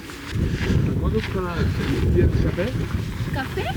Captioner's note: speaking Spanish